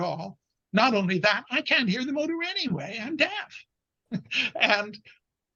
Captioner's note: chuckles